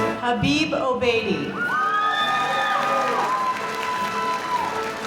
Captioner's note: applause